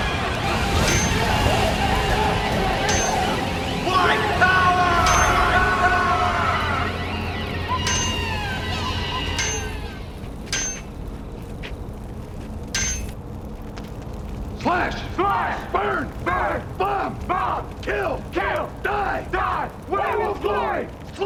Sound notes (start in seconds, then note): 0.3 metallic Clinking; 7.1 clink, Clink